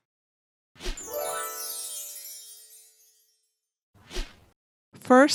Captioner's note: magic sparkling